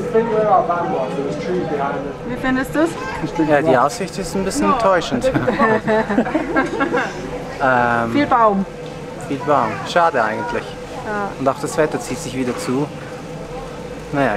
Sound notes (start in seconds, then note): 5.1 laughter